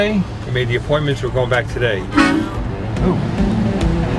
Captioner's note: horn honks